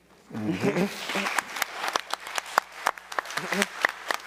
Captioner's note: all applauding